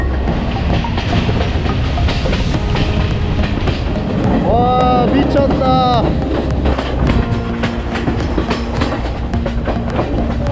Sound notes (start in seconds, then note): 4.2 a train running hard through the mountains